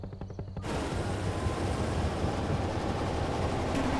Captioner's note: car engine roars